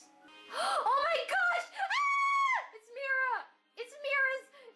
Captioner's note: gasps; screams